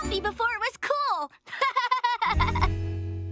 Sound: laughing

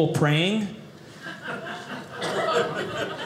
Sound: audience laughing

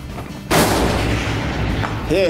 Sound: gunshot

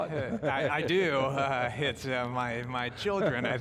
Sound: chuckles

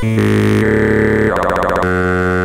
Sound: motorcycle sounds

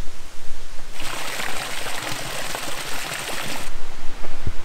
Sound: water burbling

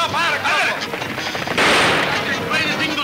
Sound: gun firing

